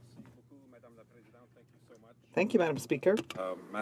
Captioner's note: speaking French